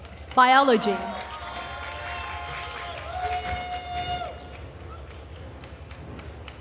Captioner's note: attendees cheering and applauding